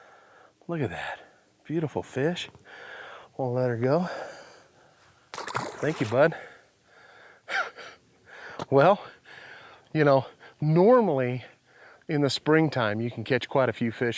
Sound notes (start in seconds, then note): 6.9 chuckles